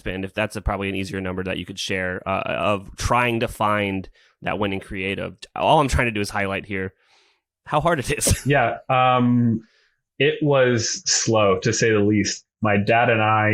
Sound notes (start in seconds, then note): 8.0 laughs